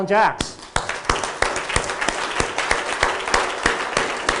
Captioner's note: applause